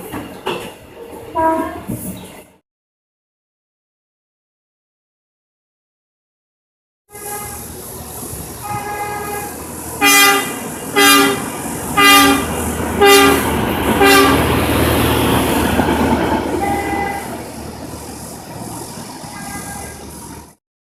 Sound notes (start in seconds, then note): 1.1 air Horn; 10.0 electric Horn; 15.0 air Horn; 19.4 electric Horn